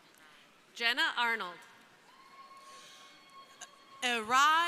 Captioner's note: crowd cheering